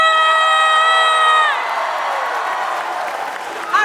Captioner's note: cheering; applause